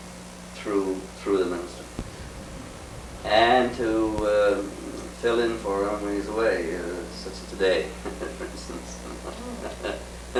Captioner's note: laughs